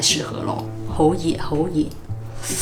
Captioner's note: Cantonese